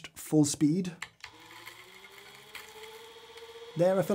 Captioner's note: grinder humming softly